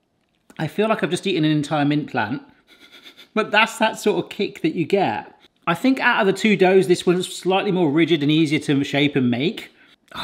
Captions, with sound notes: I feel like I've just eaten an entire mint plant. (laughs) But that's that sort of kick that you get. I think, out of the two doughs, this one's slightly more rigid and easier to shape and make.